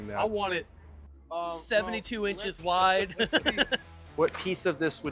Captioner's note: laughs